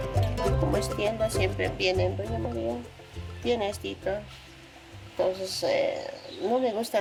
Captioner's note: speaking in foreign language